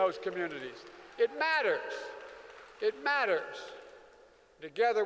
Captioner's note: applause